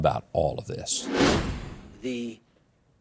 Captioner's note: wind whooshing